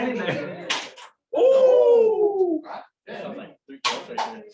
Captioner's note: cheering